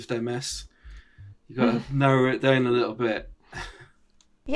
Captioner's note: chuckles